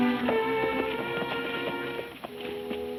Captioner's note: hooves thudding